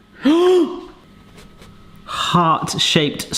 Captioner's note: gasps